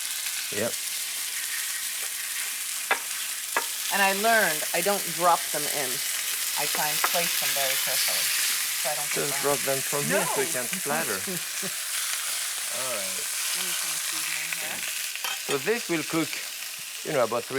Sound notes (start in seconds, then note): 1.4 sizzling